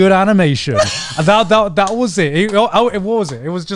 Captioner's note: laughing